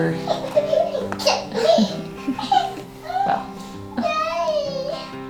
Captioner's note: children giggling and calling